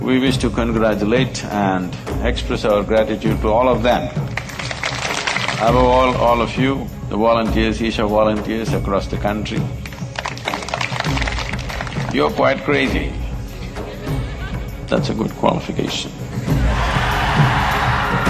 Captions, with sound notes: We wish to congratulate and express our gratitude to all of them (Applause). Above all, all of you, the volunteers, Isha volunteers across the country (Applause). You're quite crazy (few laugh), that’s a good qualification (Laughter).